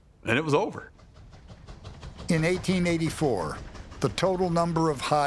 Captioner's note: train chugging